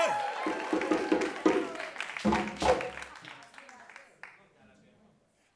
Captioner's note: drums banging; audience shouts